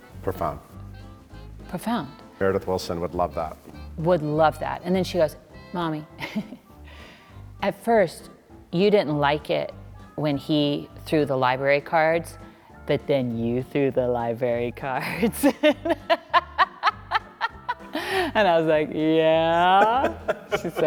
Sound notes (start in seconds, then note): 6.4 Sutton laughing; 15.1 both laughing